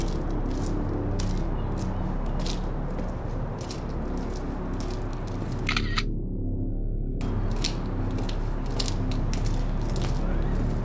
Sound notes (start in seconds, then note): 3.1 ominous low-rumble continues